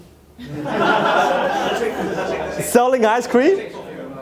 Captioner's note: audience laughing